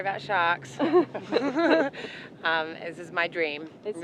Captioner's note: laughs